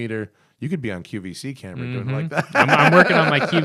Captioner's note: laughter